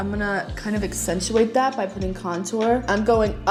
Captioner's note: none